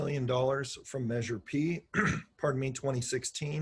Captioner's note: throat clears